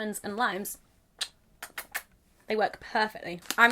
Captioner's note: kisses